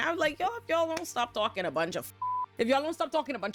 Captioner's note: beep